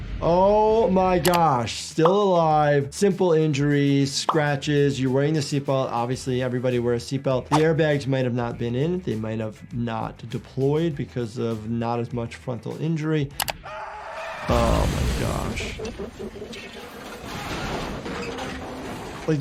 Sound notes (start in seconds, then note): 13.2 driver shrieks; 14.5 explosion crashes; 16.5 metal creaks